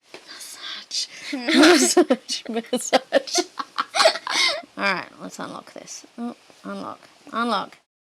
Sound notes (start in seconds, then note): 1.3 both giggle